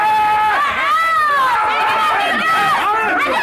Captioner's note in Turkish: Bağrışmalar